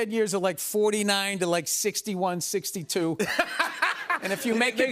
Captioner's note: laughter